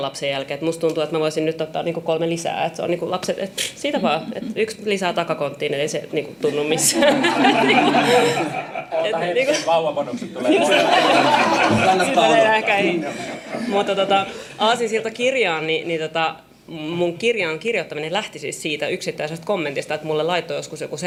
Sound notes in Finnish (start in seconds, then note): 6.8 naurua